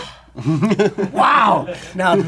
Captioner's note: laughs